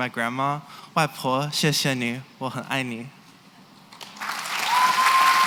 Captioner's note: non-english; cheering and applause